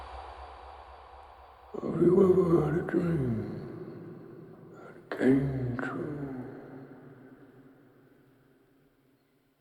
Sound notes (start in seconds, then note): 2.5 voice In Cave